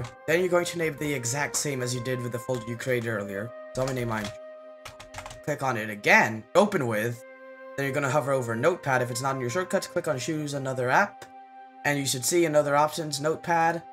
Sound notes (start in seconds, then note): 4.8 typing noises AGAIN